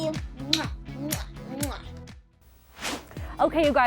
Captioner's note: kissing noise